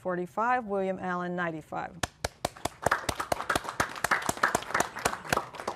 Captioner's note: applause